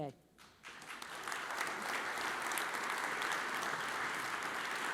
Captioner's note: audience applauds